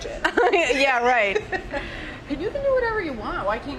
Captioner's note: laughs